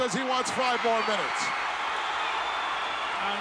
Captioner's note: audience cheering